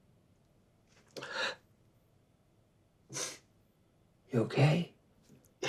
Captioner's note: sniffles